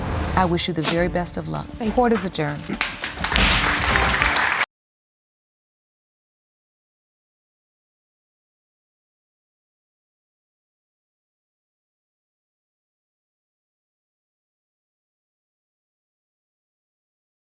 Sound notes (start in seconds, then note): 4.5 applause; 4.5 bangs gavel